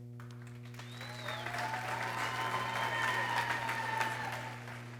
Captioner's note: people cheering